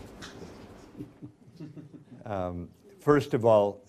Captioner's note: Secretary Mattis laughs